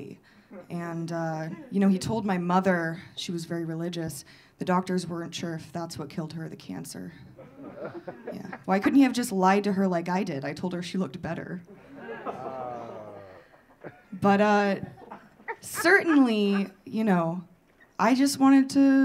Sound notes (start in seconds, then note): 11.7 audience sighing; 11.7 audience laughing